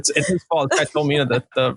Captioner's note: laughing